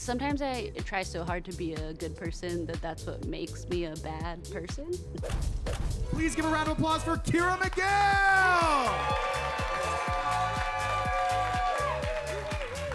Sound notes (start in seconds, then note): 5.2 logo thudding; 7.6 audience applauding and cheering